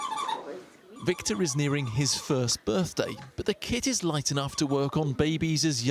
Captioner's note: voice-over